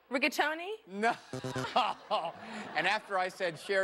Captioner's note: laughter